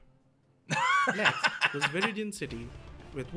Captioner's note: laughs